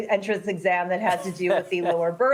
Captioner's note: laughter